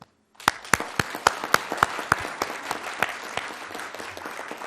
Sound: audience clapping

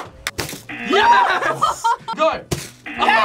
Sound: laughs

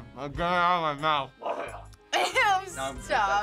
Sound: retches

